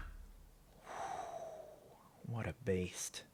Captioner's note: breathing